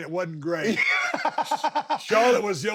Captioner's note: Sami laughs